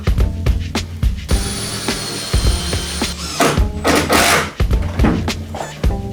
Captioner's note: drilling